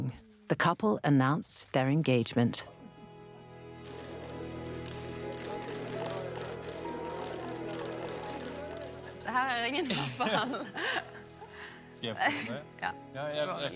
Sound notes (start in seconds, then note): 3.2 gentle music; 9.1 speaking in foreign language